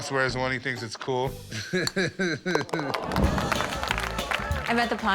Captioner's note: laughs